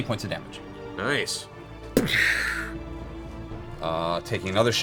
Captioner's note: gunshot sound